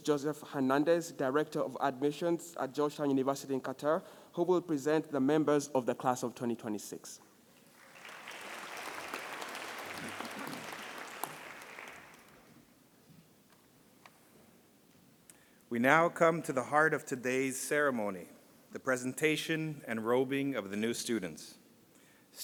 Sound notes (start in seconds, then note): 7.6 audience applauding